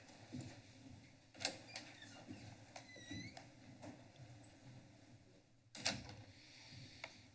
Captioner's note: door opens and closes